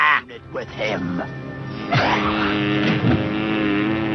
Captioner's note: fly buzzing